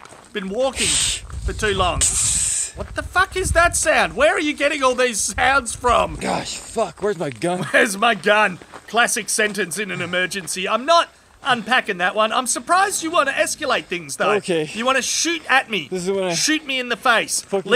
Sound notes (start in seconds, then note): 0.6 hissing